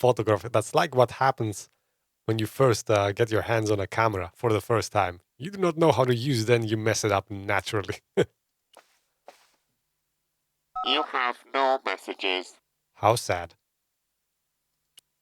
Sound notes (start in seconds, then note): 8.5 laughs